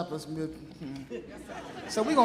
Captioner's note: audience laughing